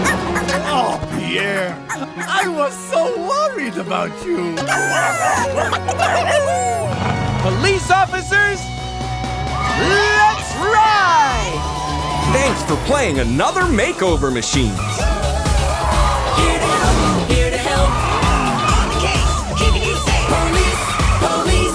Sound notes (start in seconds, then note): 4.7 barking